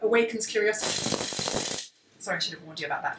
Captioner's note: rattle is very loud